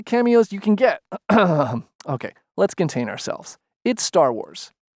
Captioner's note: ahem